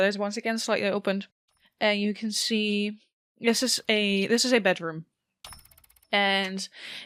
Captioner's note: rhythmic ticking and whirring noises begin